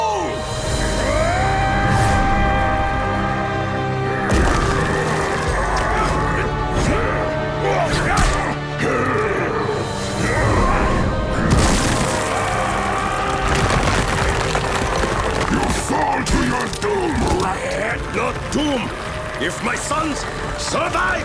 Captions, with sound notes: [screaming] [grunting] [screaming] You fall to your doom, rat. I'm not doomed if my sons survive!